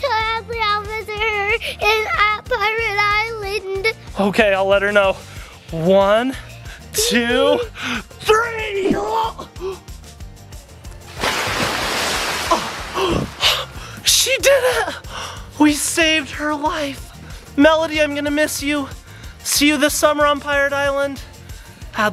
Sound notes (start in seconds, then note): 11.0 water splashes; 13.0 dad gasps